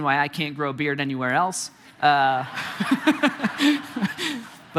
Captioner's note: congregation laughing; chuckling